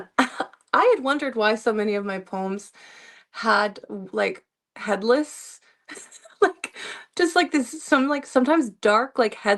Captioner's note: laughter